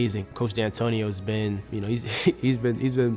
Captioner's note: laughing